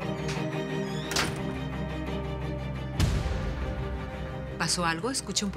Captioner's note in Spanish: Portazo